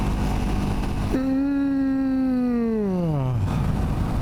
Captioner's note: yawns